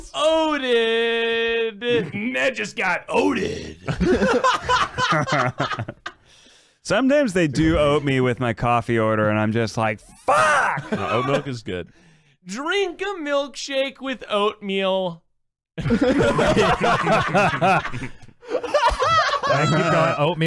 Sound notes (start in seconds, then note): 3.6 laughs; 15.8 everyone laughs